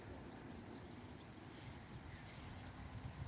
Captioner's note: birds chirping